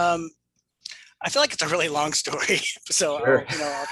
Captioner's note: laughs